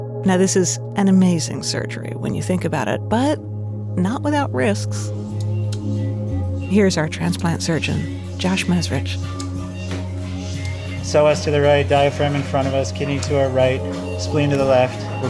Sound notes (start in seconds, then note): 5.3 ominous music; 7.6 heart monitor beeping